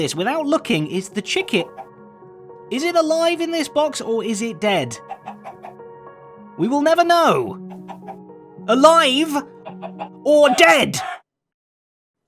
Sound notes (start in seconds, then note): 1.5 chicken clucks; 5.0 chicken clucks; 7.9 chicken clucks